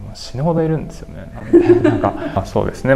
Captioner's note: laughs